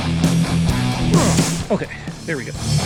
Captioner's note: sighs